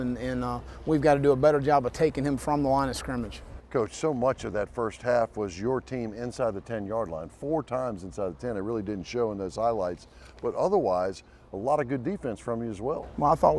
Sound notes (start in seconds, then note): none